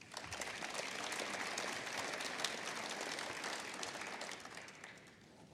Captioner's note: applause